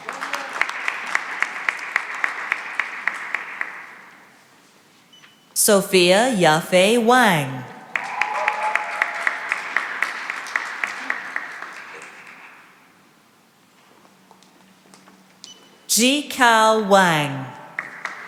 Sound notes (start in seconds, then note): 0.0 applause; 7.9 cheering and applause